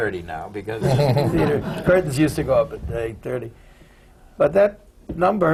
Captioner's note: laughter